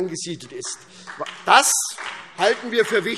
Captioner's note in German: Beifall SPD